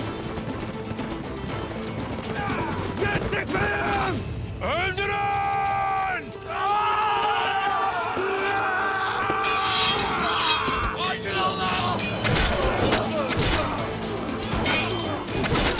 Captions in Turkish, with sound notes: -Yettik beyim! -Öldürün! (Üst üste bağrışmalar) Hayy’dır Allah! (Hareketli müzik...) (Üst üste bağrışmalar)